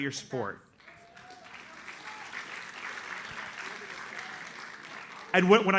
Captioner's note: audience applauds